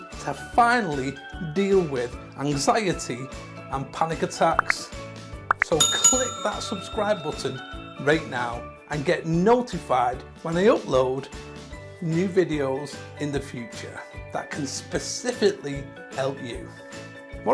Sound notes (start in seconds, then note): 5.5 finger clicking Like button; 5.5 bell ringing